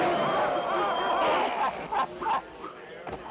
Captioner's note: villains audibly struggling